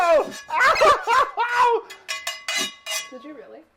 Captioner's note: crying loudly